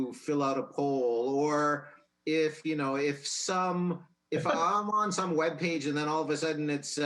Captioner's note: laughs